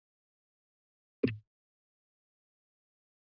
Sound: silence; mic thuds; silence

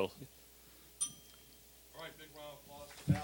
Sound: bell dinging

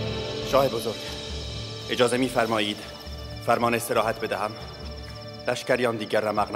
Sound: Mardonius speaking in foreign language

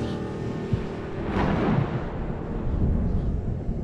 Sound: low thunder rumble

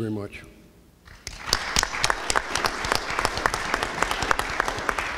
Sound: audience applauds

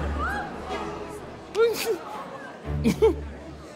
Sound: giggles

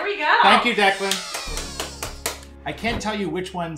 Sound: clapping and cheering

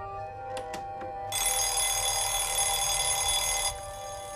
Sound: ringing; ringing continues

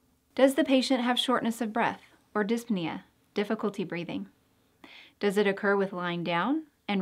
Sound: difficult breathing

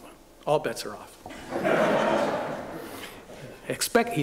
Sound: laughter

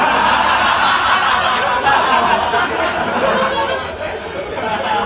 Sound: big laughter

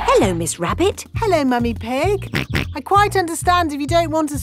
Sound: snorts

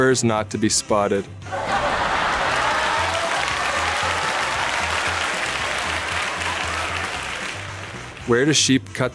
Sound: applause

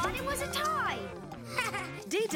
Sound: laughing

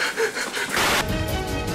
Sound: male panting loudly; static buzzing; news intro music

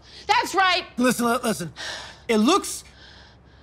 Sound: sighs

